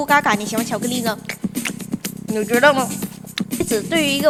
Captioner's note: eating chocolate